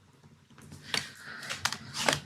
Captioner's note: paper rustles